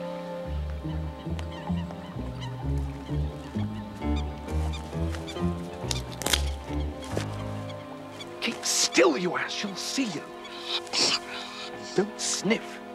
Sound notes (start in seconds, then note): 4.4 twig breaks; 10.4 sniffing